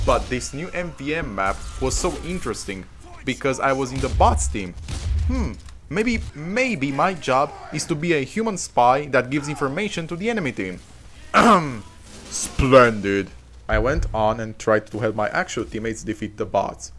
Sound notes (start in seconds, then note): 11.3 ehem